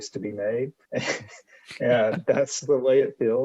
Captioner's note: chuckles